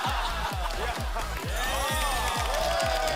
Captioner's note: laughter